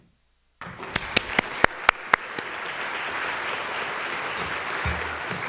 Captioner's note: audience applauding